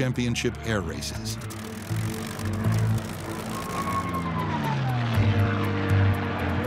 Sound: plane engine roars; tense music

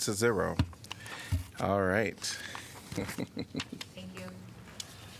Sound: laughter

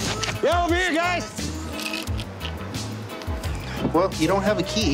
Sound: rattling

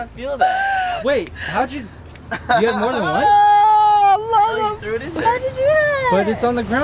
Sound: laughing

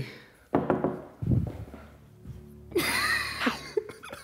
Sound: knocking on window

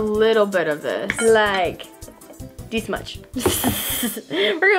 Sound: chuckles

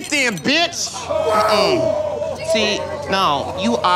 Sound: crowd exclaiming

